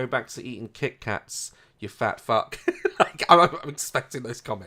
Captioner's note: laughs